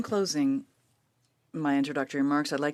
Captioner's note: speaking French